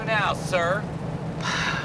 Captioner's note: sighs